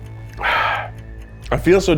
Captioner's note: clock ticking; ominous music